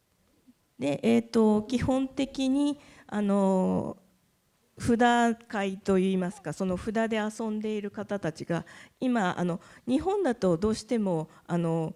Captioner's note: speaking japanese